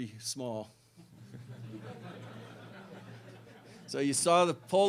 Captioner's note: laughter